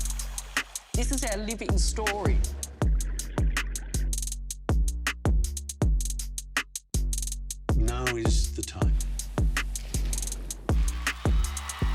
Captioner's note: cheers and Applause